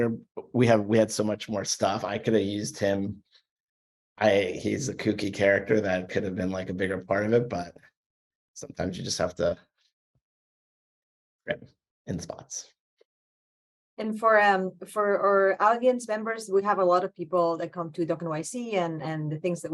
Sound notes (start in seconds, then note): 11.4 audio cuts out